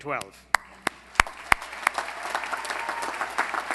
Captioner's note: applause